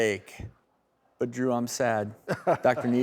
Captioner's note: laughs